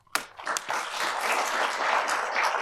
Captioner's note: applause